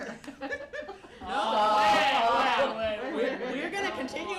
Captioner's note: laughter